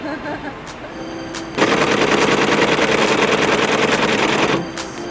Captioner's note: machinery whirring